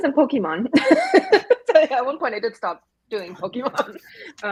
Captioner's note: laughing